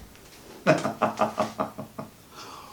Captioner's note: laughs